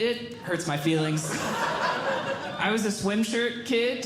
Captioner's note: audience Laughing